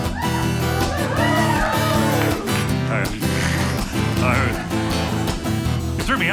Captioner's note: guitar strumming; audience cheering